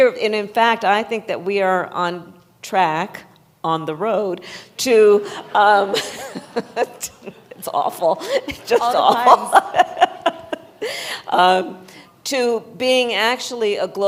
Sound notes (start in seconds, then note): 5.8 laughter; 8.7 laughs